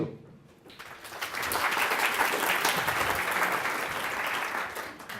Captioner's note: audience clapping